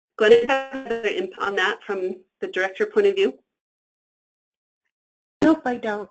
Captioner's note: static